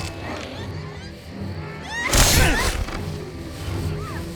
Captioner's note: gasping, screaming; enraged grunt